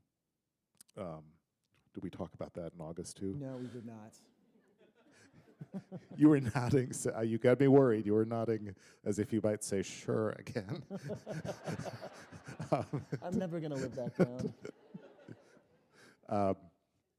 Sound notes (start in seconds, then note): 6.9 chuckle; 12.0 laughter